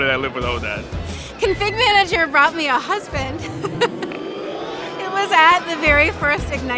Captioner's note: laughter